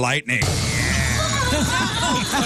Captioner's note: laughter